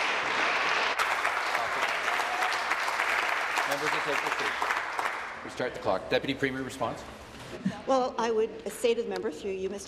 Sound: applause

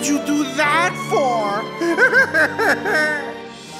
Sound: crying

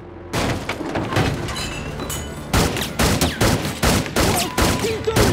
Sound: chair thuds; guns banging; beep

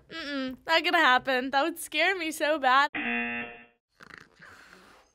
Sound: buzzer

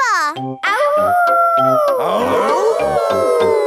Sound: howling; all howling

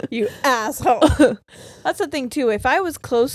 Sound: giggles

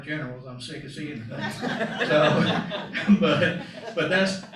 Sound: laughter

